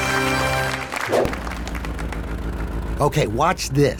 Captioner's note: dramatic and triumphant fanfare; engine humming